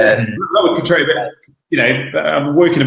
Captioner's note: laughing